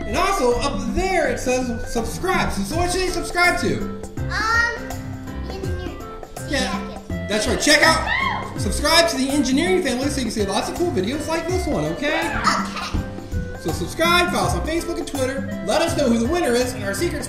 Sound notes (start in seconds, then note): 8.0 voiceover